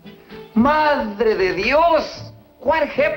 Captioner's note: spanish